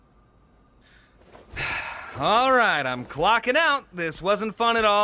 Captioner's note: sighs